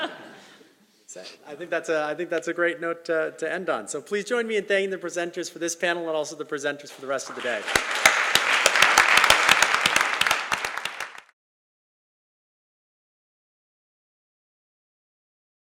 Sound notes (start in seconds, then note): 0.4 laugh; 10.1 applause